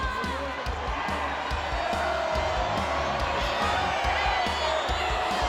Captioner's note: audience cheering